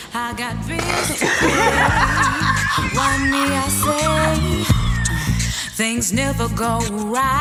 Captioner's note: hysterical laughter